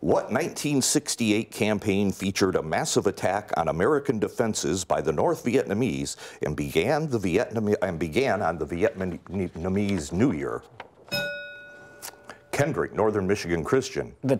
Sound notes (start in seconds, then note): 11.1 bell rings